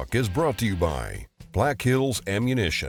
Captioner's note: voiceover